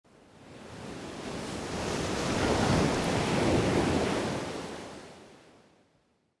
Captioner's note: waves crashing